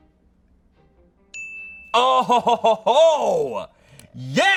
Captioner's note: bell dings